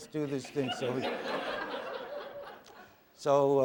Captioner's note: laughter